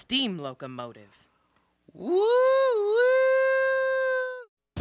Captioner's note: imitates train whistle